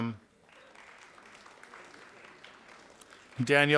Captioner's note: audience applauding